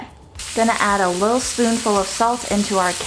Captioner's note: oil sizzling